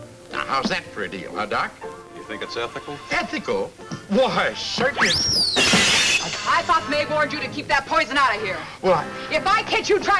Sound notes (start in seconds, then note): 5.5 glass shatters